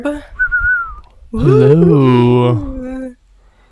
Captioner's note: Orb whistles